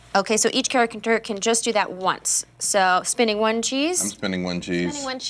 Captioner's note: none